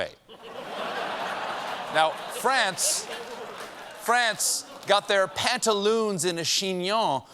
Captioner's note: laughter